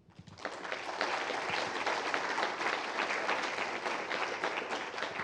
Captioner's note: applause